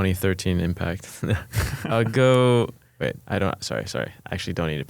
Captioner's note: laughs